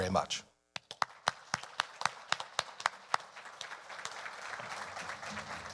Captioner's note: audience applauding